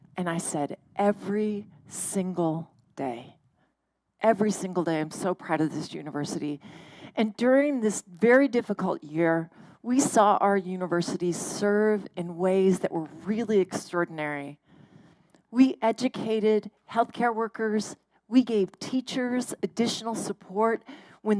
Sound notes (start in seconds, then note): none